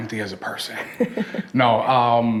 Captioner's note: both laugh